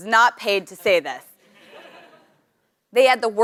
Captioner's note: laugh